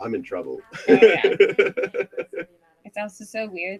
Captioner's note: laughs